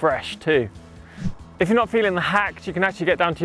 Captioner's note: swish